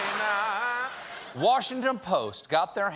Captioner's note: laughter